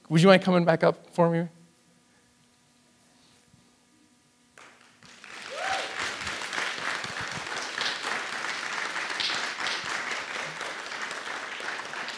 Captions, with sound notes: Would you mind coming back up for me? (audience applauds)